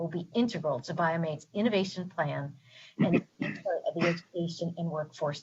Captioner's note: distorted sound